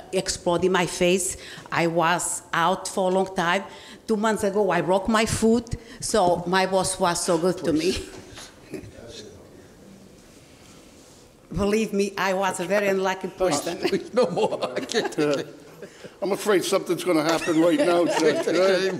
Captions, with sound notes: explode in my face, I was out for a long time. Two months ago I broke my foot so my boss was so good to me. Believe me I was a very lucky person. (laughing) No more, I can't take it. I'm afraid something's gonna happen right now, Judge.